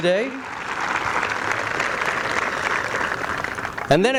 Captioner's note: applause